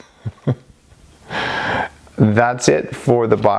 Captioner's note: chuckling